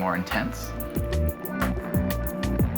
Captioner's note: buzzing continues